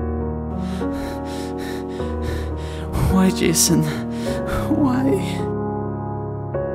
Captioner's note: panting